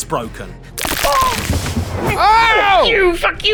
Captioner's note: bones crunch